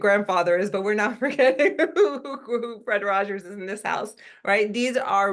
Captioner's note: laugh